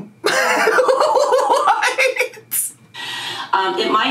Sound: laughing

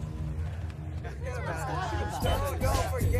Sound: indistinct chatter; rap music

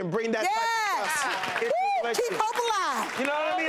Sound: applause

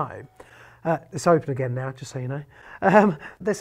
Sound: chuckles

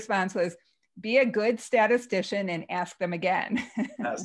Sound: laughs

